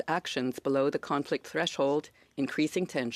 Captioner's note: speaking French